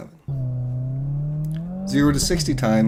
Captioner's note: engine revving